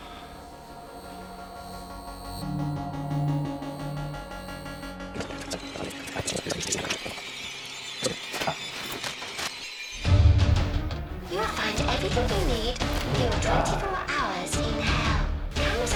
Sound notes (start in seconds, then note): 0.2 suspenseful music; 5.4 suspenseful music; 5.4 tape rustling; 10.4 light dramatic music